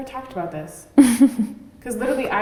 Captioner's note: giggles